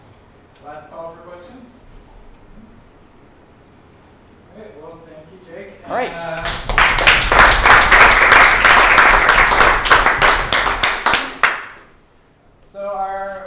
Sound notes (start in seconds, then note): 10.9 applause